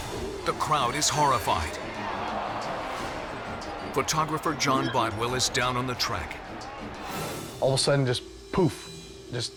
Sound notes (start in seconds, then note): 0.4 crowd